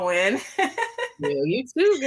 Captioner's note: laughs